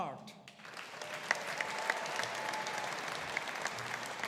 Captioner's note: audience applauding